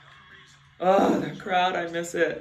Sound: grunts

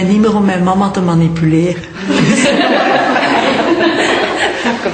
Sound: laughter

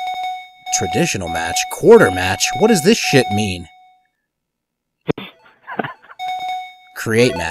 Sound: chuckles

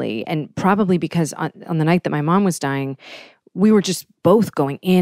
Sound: none

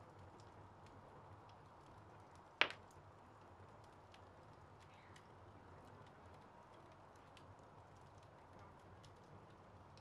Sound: crackling fire

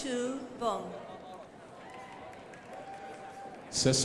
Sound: crowd applauding

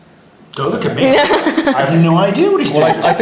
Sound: laughs

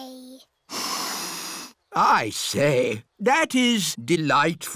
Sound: sniffs

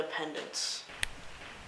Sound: snap

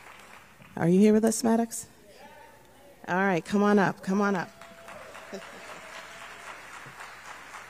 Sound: applause

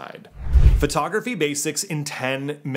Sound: whooshing

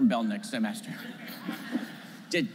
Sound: laughter

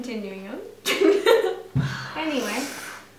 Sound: giggles

